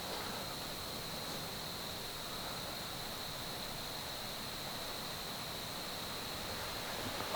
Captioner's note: wind